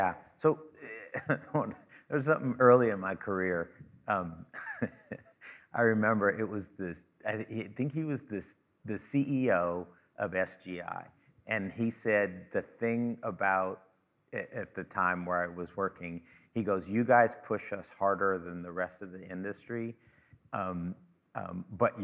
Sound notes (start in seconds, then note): 4.4 chuckling